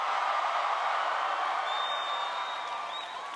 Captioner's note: applause